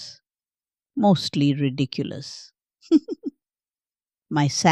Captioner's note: giggles